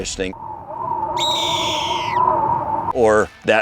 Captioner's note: bird screeches